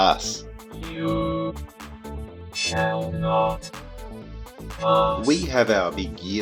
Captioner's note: synthesized voice